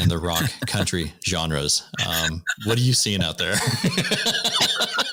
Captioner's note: laughter